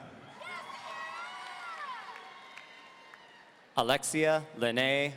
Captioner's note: audience cheering